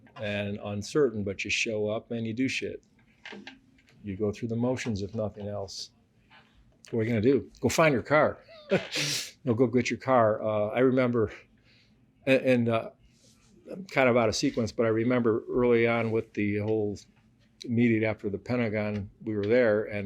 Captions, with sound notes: and uncertain, but you show up and you do shit. You go through the motions if nothing else. What are you gonna do? Go find your car. (laughs) You know, go get your car. Uh, I remember a- and, uh... I'm kind of out of sequence, but I remember early on with the whole... immediately after the Pentagon, we were there